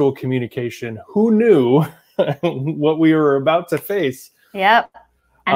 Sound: chuckles

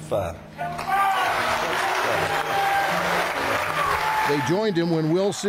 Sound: audience applauding

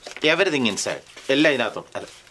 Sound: in Malayalam

